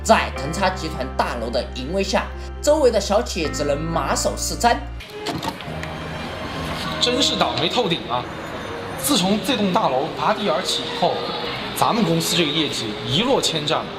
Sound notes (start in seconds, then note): 6.9 sound of Man's voice